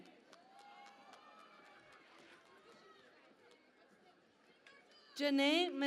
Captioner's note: cheering and Applause